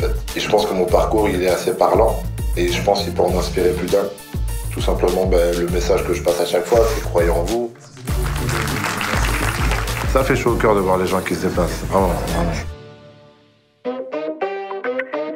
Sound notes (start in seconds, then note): 7.8 clapping